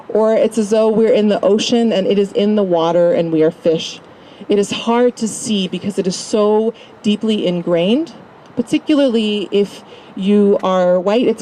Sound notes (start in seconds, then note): none